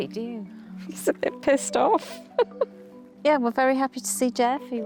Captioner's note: chuckles